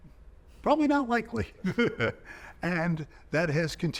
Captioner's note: chuckling